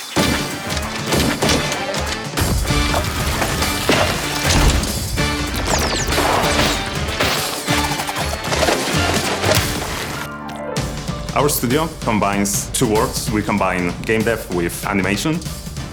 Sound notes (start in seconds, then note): 0.1 big band music plays; 5.2 guns whizz and pop